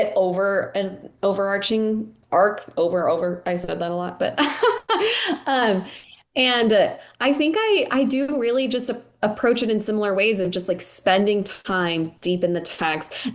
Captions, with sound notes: over an overarching arc. Over, over, I said that a lot. (laughing) And I think I do really just a approach it in similar ways of just like, spending time deep in the text.